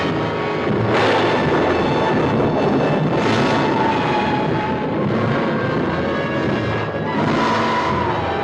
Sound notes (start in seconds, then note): 0.0 thunderclap crashing; 4.9 ominous music